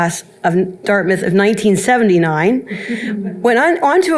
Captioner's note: audience chuckles